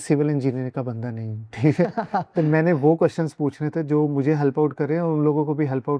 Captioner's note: laughter